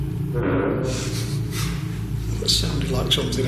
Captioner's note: creaking